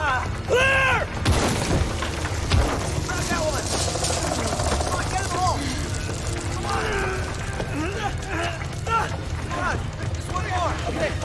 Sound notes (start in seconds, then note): 1.4 stone hits the ground; 7.3 men grunt